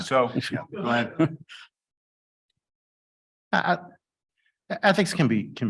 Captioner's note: chuckles